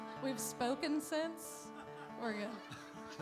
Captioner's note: laughter